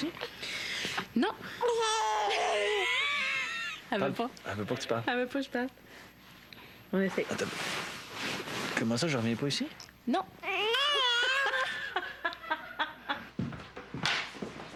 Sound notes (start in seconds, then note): 1.6 hurlement; 11.2 rires